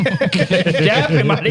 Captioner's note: laughing